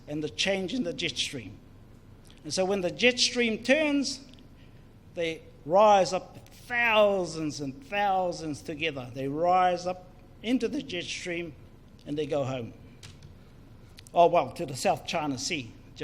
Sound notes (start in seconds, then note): none